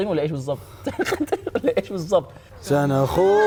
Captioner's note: chuckles